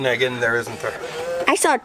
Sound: machine whirs

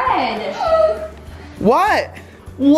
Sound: gasps

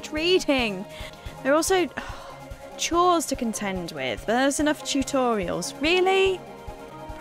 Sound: sighs heavily

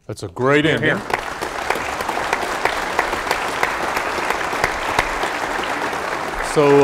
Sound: applause

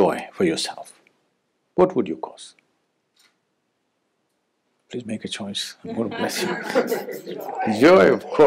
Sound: laughter

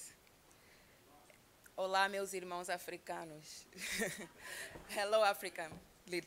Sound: speaking non-English language

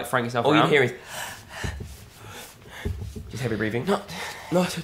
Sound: breathing heavily

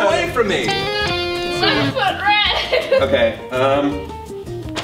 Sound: electric guitar; giggles

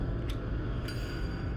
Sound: click

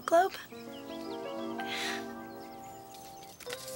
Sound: chuckles

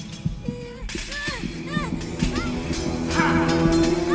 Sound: men grunting; whimpers; gasping

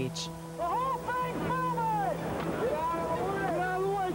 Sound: yelling

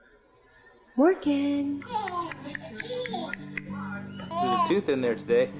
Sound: baby coos

